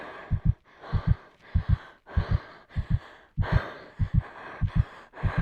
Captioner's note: heavy breathing